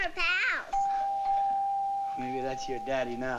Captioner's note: doorbell ringing